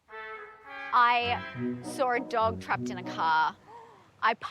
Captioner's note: gasps